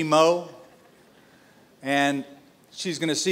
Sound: laughter

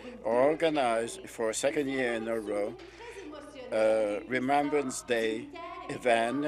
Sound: speaking French

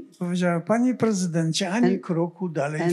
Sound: foreign language

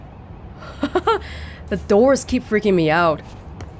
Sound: laughs

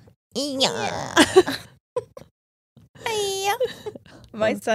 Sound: both laugh

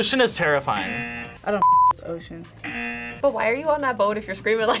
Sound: buzzer rings; buzzer rings

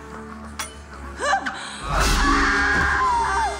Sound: Vaggie whimpers; Vaggie screams

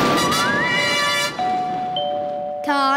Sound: doorbell ringing

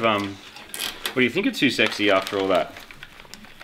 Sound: cable tie zips

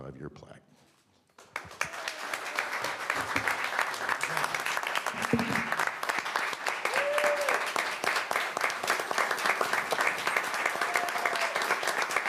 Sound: applause

